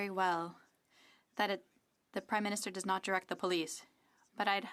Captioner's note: speaking french